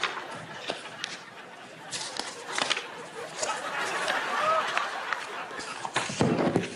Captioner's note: laughter continues; pages turning; rubbing microphone